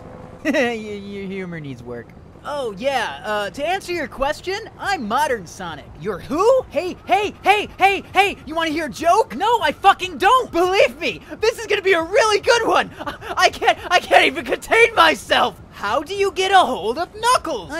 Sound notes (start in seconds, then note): 10.9 laughing